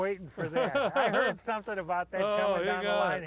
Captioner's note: laughs